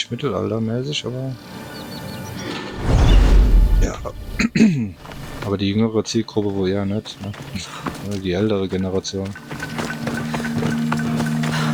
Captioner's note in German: räuspern